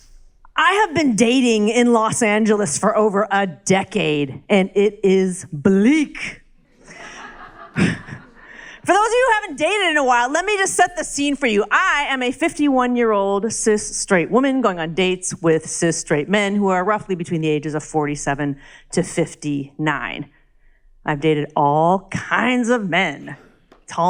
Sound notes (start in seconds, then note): 6.7 crowd laughs